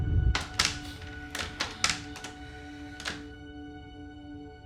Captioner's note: clattering